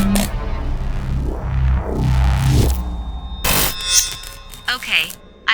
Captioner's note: harmonic sound